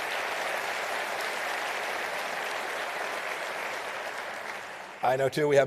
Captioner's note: applause